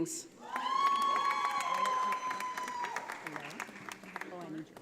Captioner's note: audience applauding